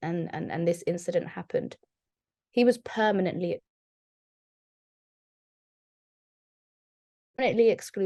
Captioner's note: audio Cuts 00:47:06 TIMESTAMP